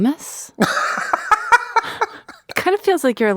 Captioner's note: laughs